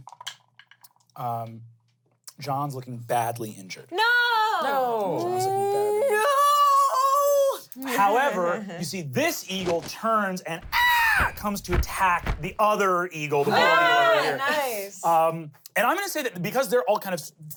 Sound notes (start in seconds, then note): 10.7 caws